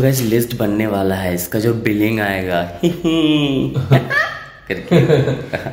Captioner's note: Evil laugh